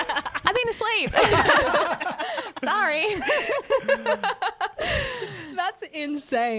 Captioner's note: laughing together